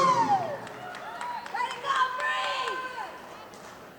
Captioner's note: voice drowned screaming woman